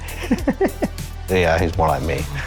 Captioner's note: laughing